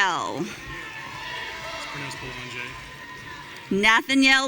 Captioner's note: audience cheering